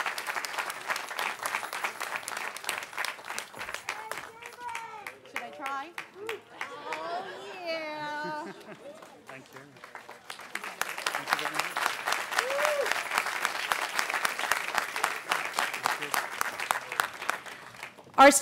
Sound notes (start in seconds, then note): 0.0 cheering; 6.1 cheering; 6.6 laughter; 11.5 applause; 17.1 cheering